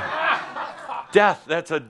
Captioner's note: laughter